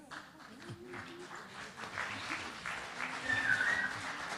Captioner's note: applause